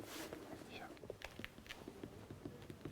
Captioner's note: quietly